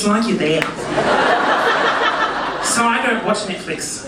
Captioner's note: audience laughing